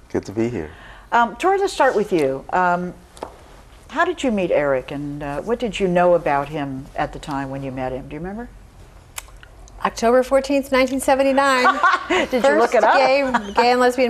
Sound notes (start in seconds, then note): 11.3 laughs